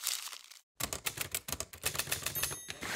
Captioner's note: paper crumples; typing; typewriter ding